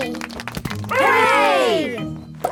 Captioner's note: crowd applauding